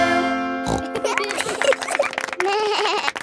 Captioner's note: snorts; laughing; bleats and laughs